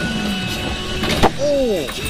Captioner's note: clunk